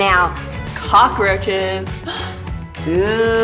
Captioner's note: gasps